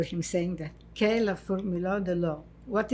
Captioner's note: french